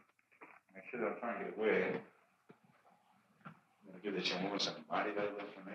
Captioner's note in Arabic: يتمتم